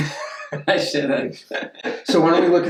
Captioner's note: laughter